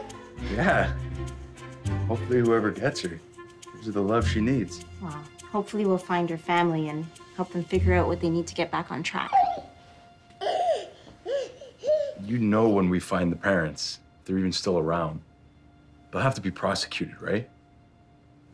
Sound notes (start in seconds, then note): 10.4 baby cooing happily